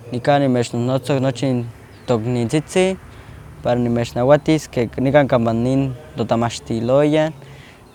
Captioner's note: speaking in Nahuatl